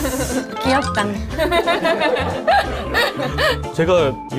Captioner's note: hehehehe